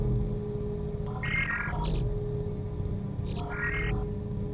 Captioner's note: ominous atmospheric music; device beeping